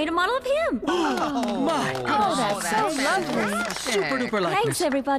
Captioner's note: shouts of Approval